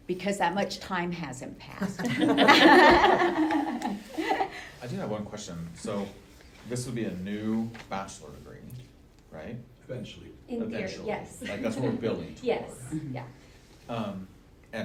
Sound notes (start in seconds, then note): 2.0 laughing